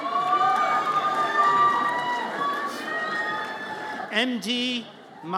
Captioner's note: audience cheers